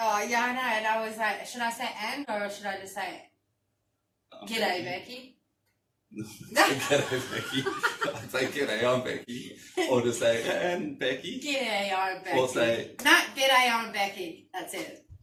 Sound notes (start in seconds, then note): 6.2 laughing; 8.8 giggling